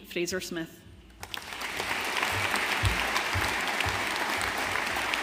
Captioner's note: audience applauding